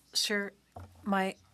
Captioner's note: speaking French